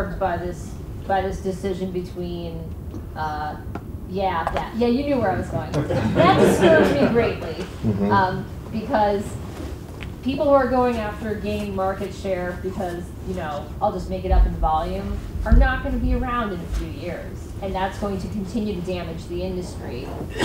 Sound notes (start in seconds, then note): 5.5 audience laughs